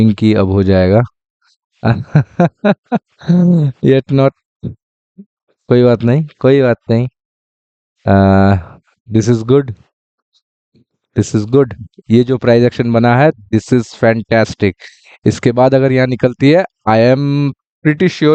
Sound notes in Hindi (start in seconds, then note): 1.8 हंसी